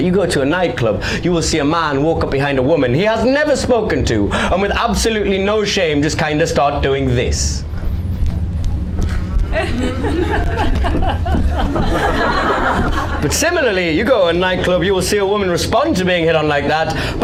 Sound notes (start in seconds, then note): 9.5 grinds on micstand